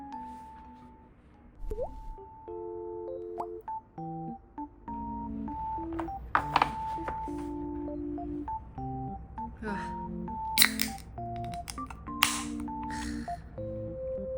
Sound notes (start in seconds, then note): 10.6 Crunch; 11.3 chew; 11.4 click